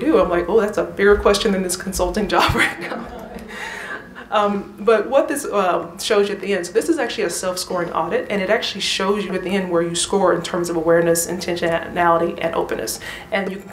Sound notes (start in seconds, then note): 2.4 laughter